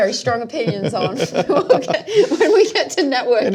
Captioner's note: laughing